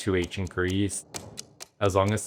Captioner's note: ticking